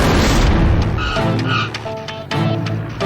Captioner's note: tires screeching